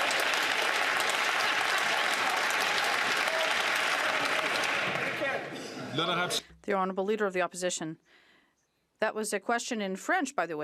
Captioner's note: some Applause